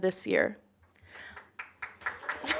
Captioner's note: applause